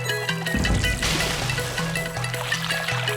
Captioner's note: splashing